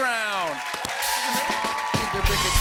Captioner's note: cheers and applause